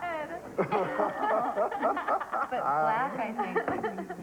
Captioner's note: laughing